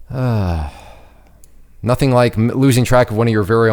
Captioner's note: mouse clicks; sighs